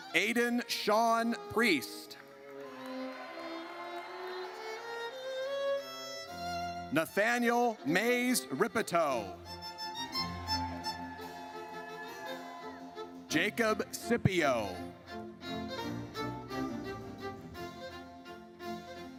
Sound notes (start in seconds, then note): 2.2 audience cheers; 10.0 audience cheers; 15.4 triumphant music